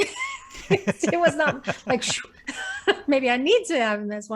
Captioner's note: sighing